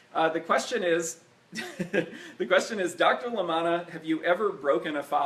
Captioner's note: laughs